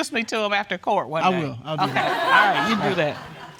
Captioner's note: audience laughs